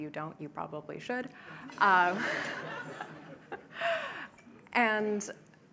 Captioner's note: laughter